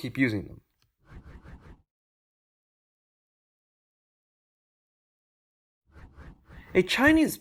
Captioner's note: transition swooshes